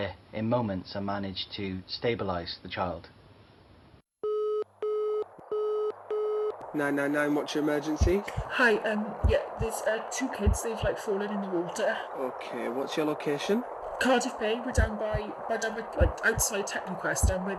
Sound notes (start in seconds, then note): 4.2 call tone